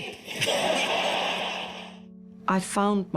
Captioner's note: audience laughs